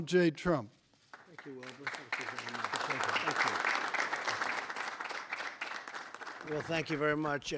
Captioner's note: applause